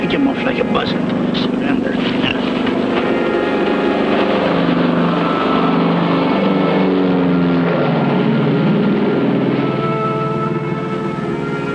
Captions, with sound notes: pick him off like a buzzard. Surrender. - Yes. (pensive orchestral music) (airplane engine whirring)